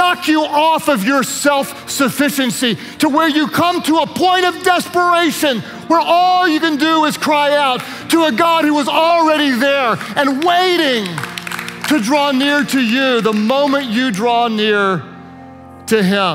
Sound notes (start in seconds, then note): 12.3 worship leaders applaud